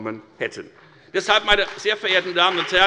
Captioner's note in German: Beifall bei der FDP